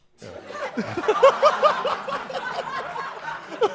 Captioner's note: laughter